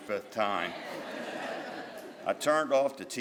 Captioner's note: crowd laughs